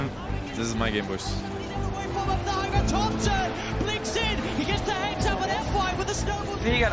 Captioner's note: crowd continues cheering